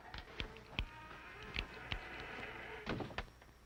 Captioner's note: door creaking